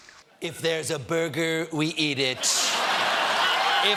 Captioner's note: laughter